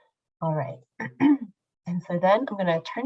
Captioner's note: clears throat